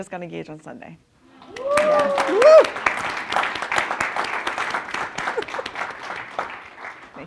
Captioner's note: applause